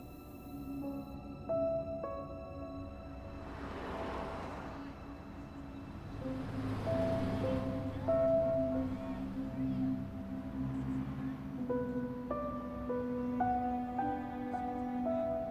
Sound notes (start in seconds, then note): 4.0 traffic whooshing; 12.5 suspenseful music